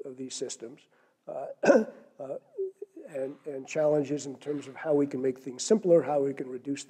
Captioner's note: cough